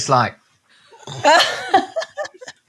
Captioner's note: laughing